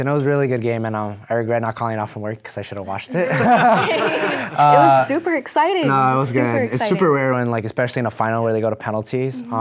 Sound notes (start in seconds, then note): 3.1 all laughing